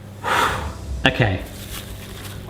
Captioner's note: sighs